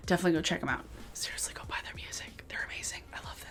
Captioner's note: whispers